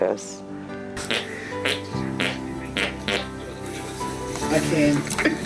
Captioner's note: imitating farting